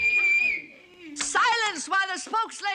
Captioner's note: whistles